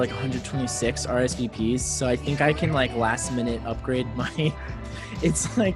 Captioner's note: laughs